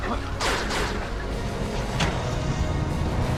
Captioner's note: guns firing